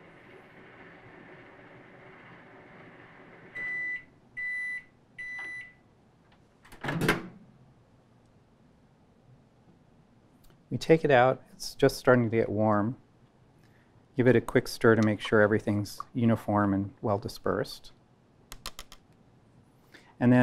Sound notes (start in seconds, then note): 3.5 beeping; 6.7 opening microwave